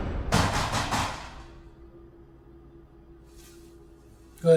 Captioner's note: door knocking